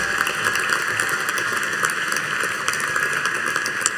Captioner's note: audience applauding